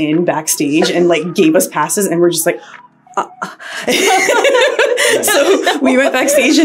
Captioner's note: bowing and laughing